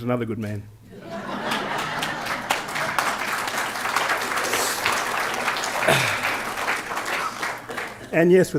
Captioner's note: laughter